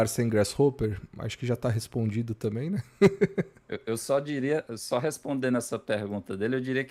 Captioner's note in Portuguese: risadas